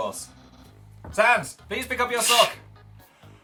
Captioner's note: snorts